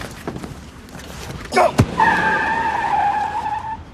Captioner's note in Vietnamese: lốp xe rít lên